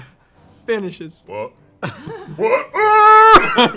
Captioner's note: screams